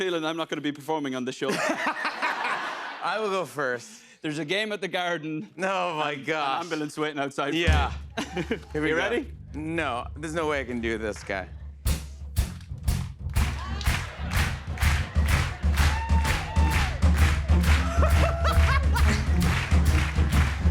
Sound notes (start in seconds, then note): 1.4 laughter; 11.8 drumming; 13.3 clapping; 17.6 laughs